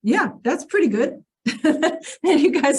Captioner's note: chuckles